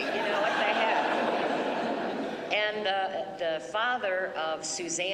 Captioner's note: laughter